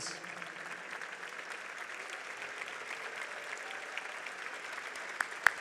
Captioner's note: audience applauds